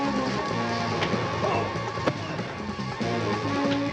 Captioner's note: Billy grunting